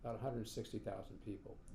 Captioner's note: none